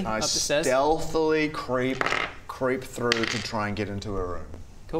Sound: dice rolls

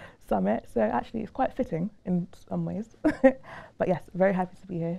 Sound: laughing

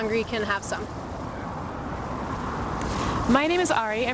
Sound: street sounds - cars passing

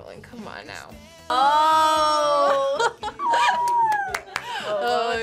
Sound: laughs

